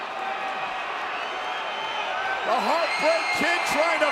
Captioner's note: crowd cheers